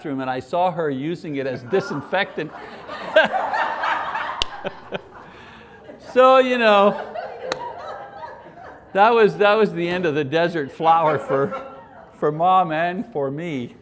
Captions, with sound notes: And I saw her using it as disinfectant. [audience laughs] That was the end of the Desert Flower for mom and for me.